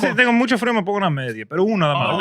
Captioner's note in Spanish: Hablando en idioma extranjero